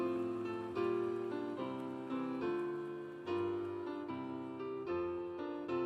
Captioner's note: cheers and applause